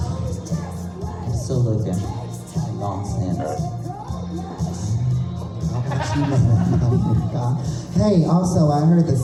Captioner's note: mumbling to herself